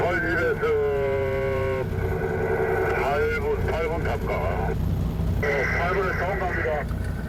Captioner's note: sound of a radio; sound of a radio